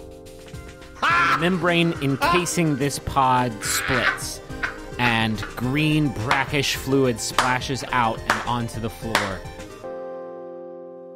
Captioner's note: laughing